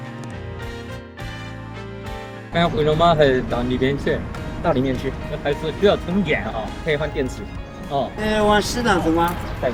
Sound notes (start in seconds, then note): 6.3 drone